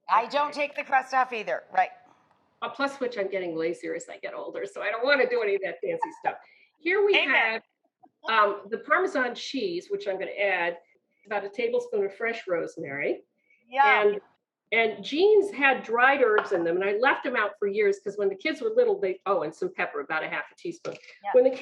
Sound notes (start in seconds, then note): 7.1 laughs